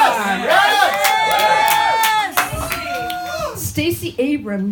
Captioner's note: crowd cheering